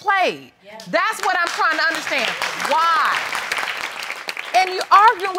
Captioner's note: applause